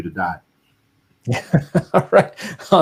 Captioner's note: laughing